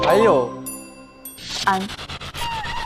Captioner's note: ding